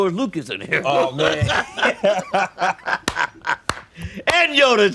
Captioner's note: both laughing